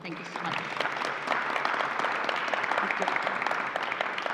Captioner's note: applause